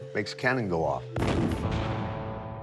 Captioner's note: cannon thunders